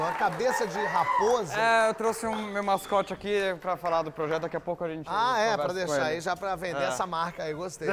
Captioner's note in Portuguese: aplausos